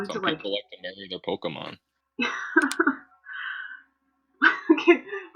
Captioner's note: laughter